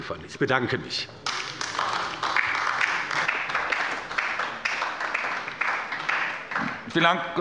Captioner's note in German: Beifall bei der LINKEN